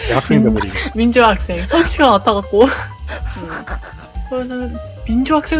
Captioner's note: laugh; laugh